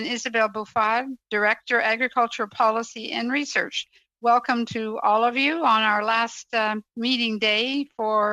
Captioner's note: speaking french